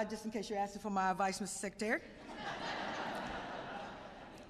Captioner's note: laughter